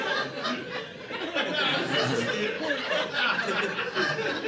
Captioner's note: audience laughing